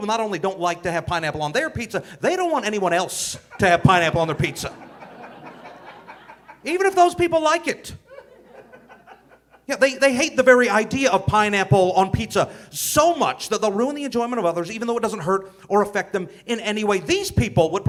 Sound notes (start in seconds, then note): 5.3 audience laughing